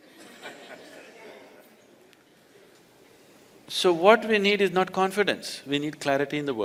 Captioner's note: laughter